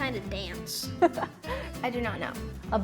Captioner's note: interviewer chuckles